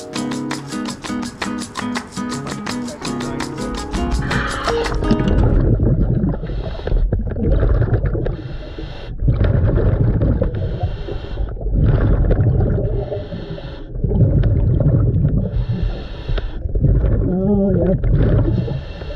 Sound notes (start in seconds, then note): 3.7 lively music; 8.1 water burbles